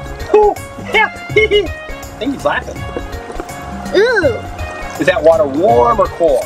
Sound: laughs

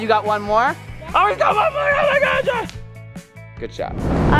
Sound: shrieking

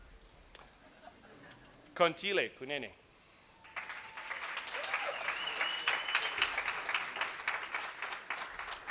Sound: cheers and Applause

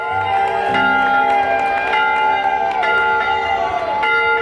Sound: cheering; bell tolling

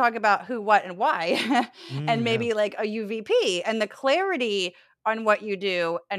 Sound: laugh

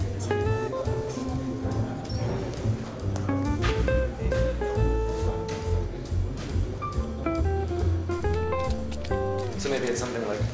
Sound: distant chatter

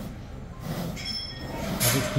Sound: sniff sniff

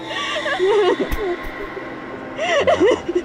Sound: scary music; Amanda crying

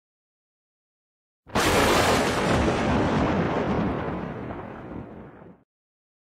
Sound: lightning/Thunder

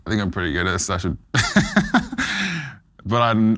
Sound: laughs

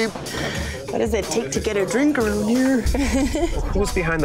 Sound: laughing

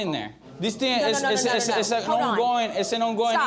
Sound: arguing

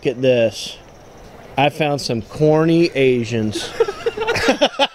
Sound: laugh

